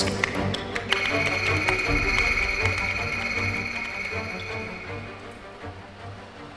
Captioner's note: old woman / enceladus typing